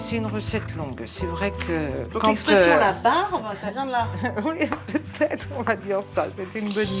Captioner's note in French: rires